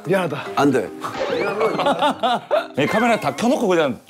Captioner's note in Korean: ㅋㅋㅋㅋㅋㅋㅋㅋㅋㅋㅋㅋ